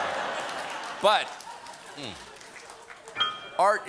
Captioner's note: laughter